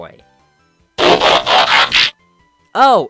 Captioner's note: Transformers transforming sound effect